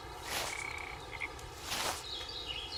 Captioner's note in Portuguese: Passos na grama